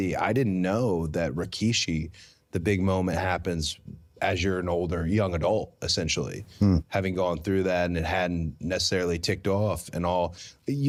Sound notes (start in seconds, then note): none